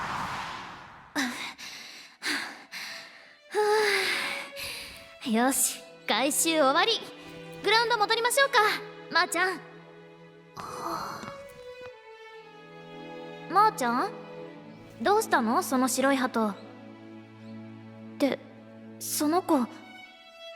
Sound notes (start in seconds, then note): 0.9 huff; 1.1 sigh